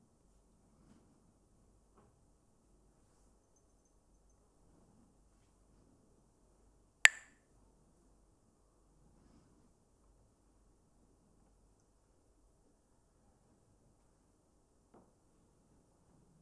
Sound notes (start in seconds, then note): 7.0 Mooji clacks the sticks